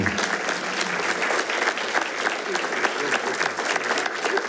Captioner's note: attendees applauding